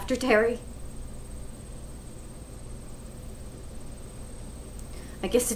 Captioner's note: insects chirping